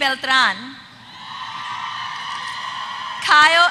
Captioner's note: applause